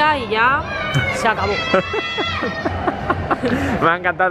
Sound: laughter

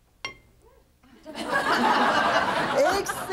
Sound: audience laughing

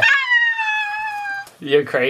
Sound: screams

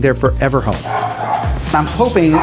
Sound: dogs barking

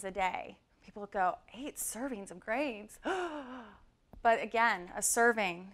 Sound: horrified gasp

